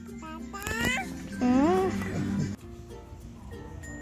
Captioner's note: baby noises